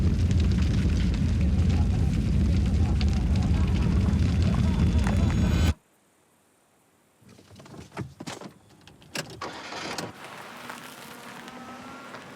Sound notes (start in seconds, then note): 1.2 boy laughing; 5.0 hands clapping; 10.2 engine revving